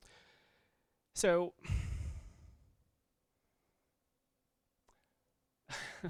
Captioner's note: chuckles